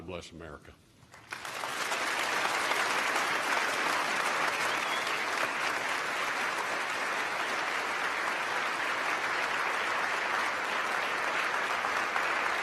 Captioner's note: applause